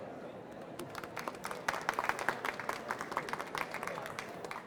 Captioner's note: applause